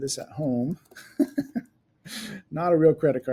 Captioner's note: laughs